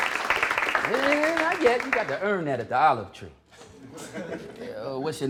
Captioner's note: applause; laughter